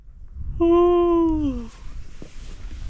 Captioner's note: yawn